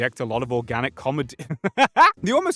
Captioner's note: laughter